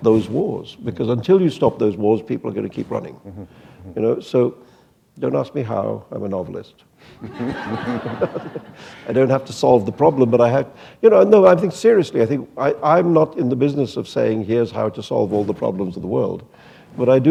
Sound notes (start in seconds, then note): 7.2 laughter